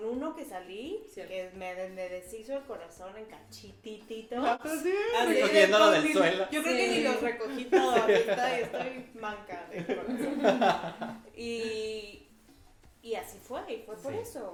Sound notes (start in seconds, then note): 9.8 laughs